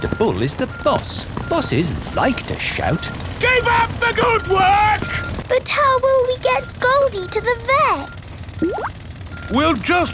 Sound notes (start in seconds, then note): none